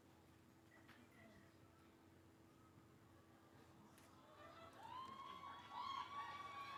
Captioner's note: cheering